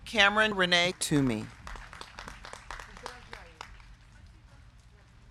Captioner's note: crowd clapping